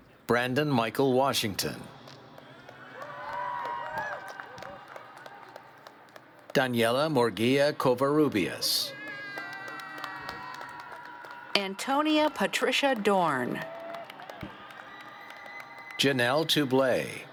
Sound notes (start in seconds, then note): 2.3 cheers